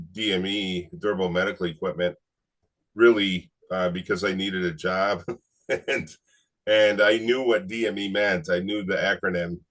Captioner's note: laughs